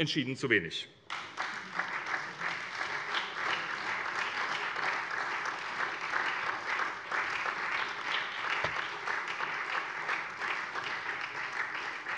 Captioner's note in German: Beifall SPD